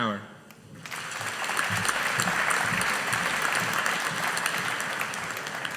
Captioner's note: audience applauding